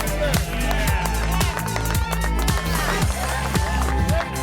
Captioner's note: crew claps